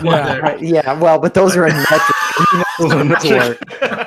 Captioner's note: all laugh